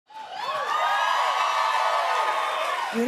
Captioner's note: cheers and applause